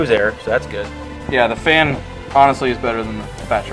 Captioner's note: voiceover